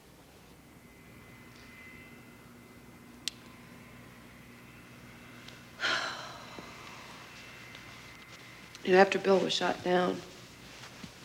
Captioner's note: sighs